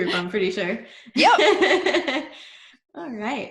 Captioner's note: laughs